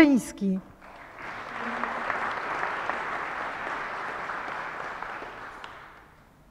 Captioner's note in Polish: oklaski